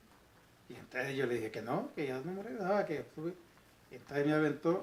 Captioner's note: spanish sounds